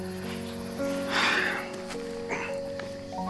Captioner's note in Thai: เสียงถอนหายใจ